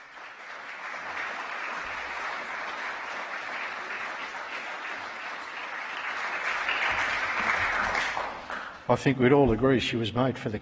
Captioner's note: applause